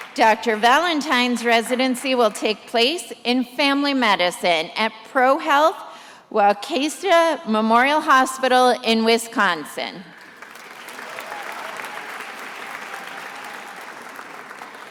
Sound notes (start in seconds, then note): 10.1 attendees applauding